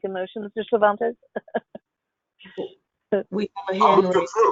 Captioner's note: laughs